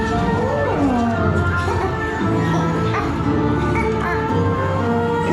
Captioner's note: chirping continues; plant roars